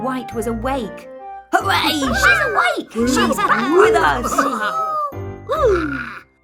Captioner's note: cheering